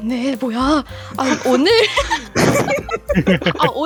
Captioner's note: laugh